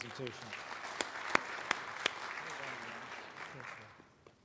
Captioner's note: applause